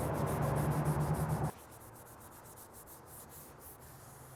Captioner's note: scrubbing